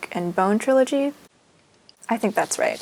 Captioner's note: pause